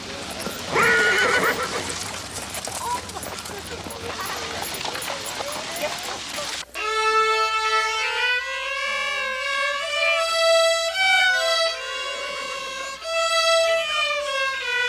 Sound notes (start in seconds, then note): 0.1 horse neighs; 6.7 rudimentary string music